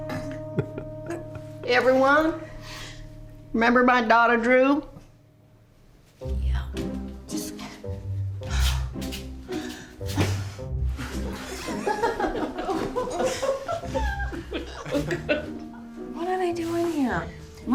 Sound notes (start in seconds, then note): 0.0 giggling; 11.3 everyone laughing